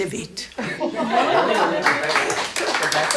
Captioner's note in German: Lachen, Durcheinanderreden